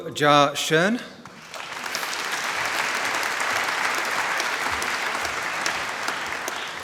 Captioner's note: applause